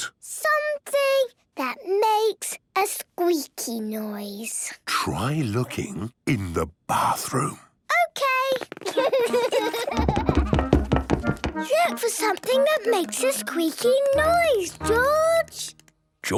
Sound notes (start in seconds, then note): 4.9 whispering; 8.8 Peppa and George laughing; 9.8 loud footsteps